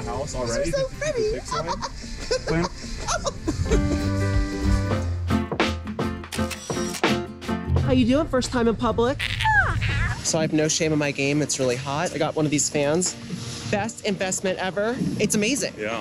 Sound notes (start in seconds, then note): 5.1 giggles; 6.3 camera shutter